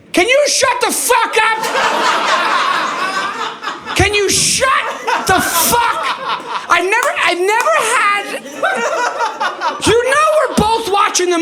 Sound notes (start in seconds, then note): 3.9 audience laughing